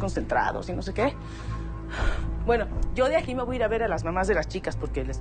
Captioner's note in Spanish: Exhalación